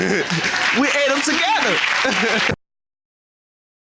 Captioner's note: laughs